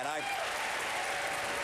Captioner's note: applause